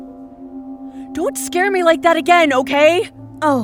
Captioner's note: tearfully